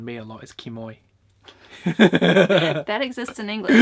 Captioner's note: laughs